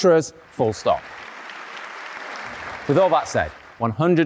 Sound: audience applauding

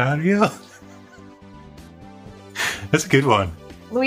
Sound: laughter

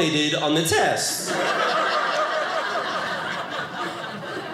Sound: audience laughing

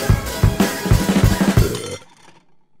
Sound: burps

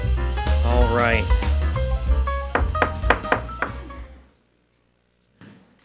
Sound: gavel tapping

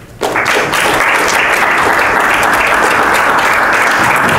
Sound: applause

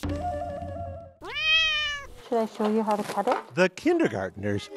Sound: cat meowing

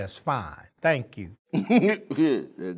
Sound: chuckle

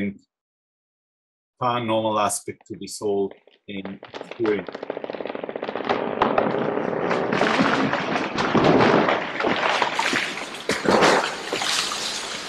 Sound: tree creaking

